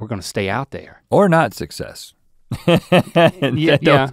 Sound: laughs

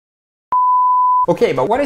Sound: beep

